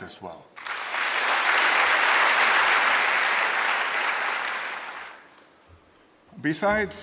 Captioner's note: applause